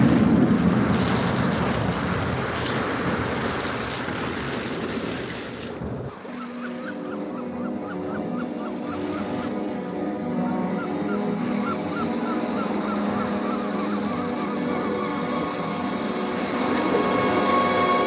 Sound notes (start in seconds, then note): 8.3 seagulls